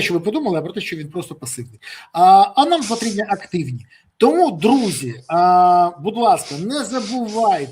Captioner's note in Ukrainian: сопіння